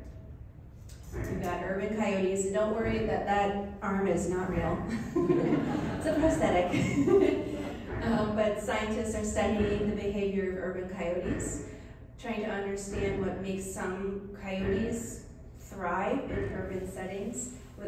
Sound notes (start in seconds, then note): 4.9 laughs